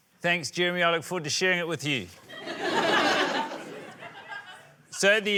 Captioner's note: laughter